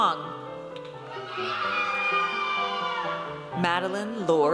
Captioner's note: audience cheers